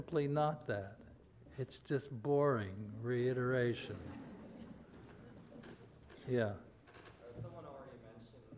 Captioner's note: audience laughter